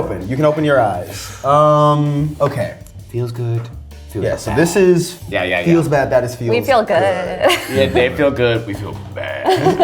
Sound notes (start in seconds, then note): 7.3 laughs